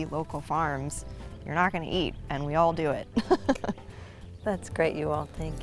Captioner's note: laughs